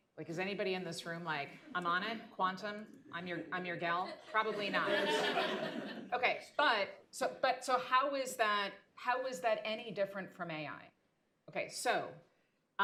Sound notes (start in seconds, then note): 4.0 laughter